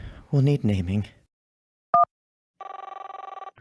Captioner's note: phone ringing